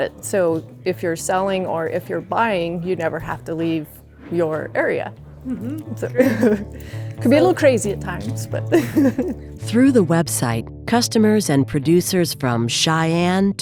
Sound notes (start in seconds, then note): 6.2 laughs